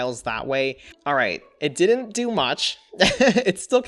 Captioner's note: laughs